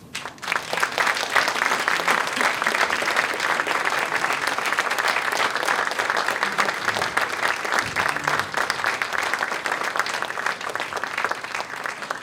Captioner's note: applause